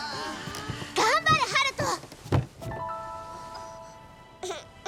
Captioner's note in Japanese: 叫び声